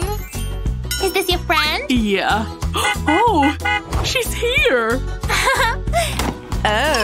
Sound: making happy sounds

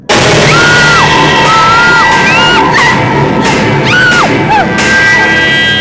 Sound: Simran Screaming

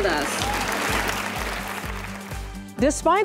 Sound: applause

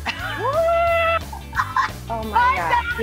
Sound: laughs

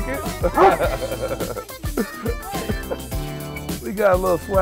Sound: laughter; dog barking

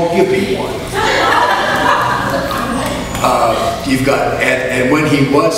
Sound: audience laughs

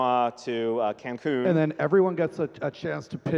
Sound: laughing

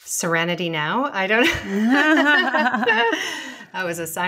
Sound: laughing

